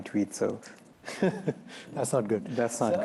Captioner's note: chuckles